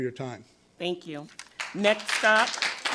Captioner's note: audience applauds